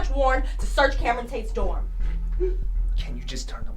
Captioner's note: Cameron weeping